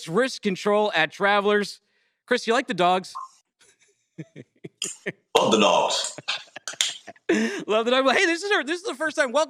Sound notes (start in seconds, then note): 4.2 laughs